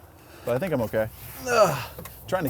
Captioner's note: groans